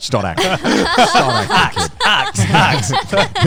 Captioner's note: everyone laughing